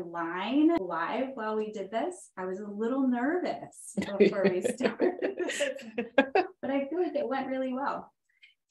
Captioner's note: laughs